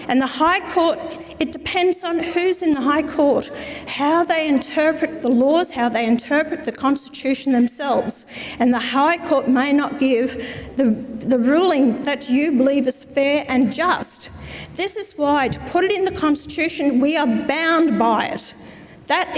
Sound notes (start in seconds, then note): none